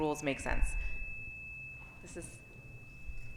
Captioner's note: mic squealing